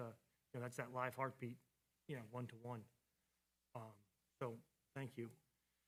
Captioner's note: none